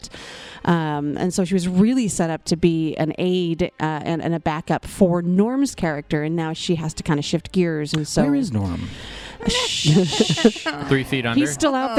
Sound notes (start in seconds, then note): 9.1 laughs, ending on a sad note